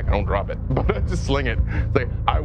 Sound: laughs

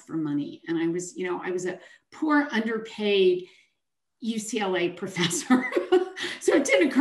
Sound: chuckles

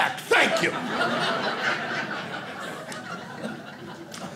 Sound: audience laughing

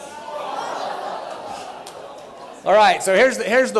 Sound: laughter

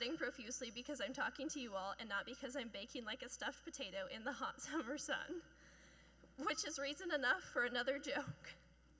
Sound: chuckling

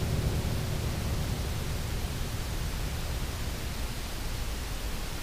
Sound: machine whirring

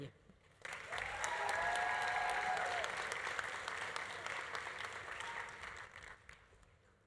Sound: audience applauding; audience cheering

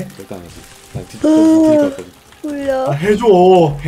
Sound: yawn

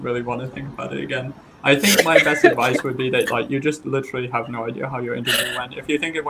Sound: laugh

